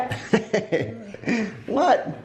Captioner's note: laughter